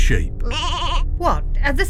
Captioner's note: sheep bleats